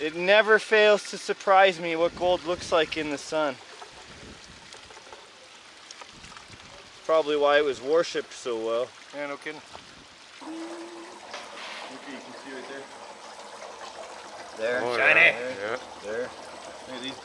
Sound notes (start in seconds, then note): 5.4 water splashes; 10.6 water burbling